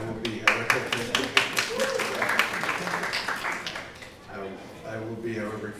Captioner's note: applause